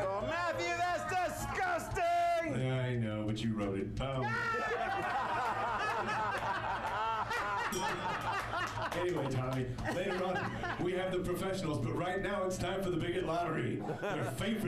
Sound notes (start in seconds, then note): 7.6 bell rings; 7.6 laughter